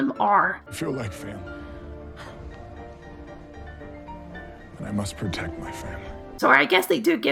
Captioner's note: huff